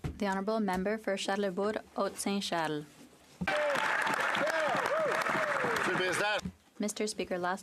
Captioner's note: some Applause